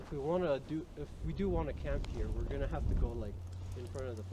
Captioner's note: none